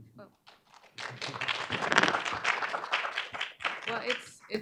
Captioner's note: audience applauding